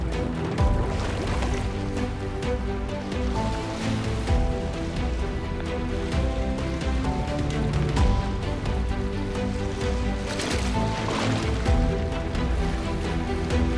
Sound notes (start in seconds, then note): 0.9 water splash; 10.4 water splash